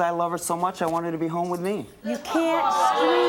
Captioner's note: audience exclaims